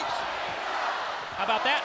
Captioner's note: audience chanting